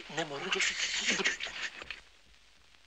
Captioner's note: shushing